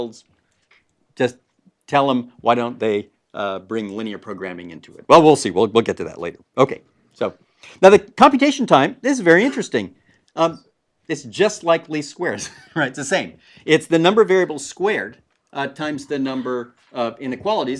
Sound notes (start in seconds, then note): 11.6 laugh